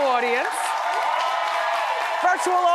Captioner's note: audience applauds